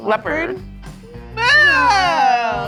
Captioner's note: screaming